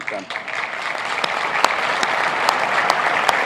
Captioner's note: applauding